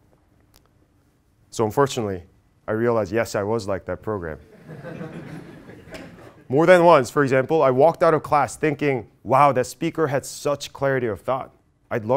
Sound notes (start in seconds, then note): 4.5 laugh